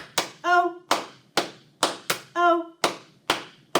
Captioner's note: clap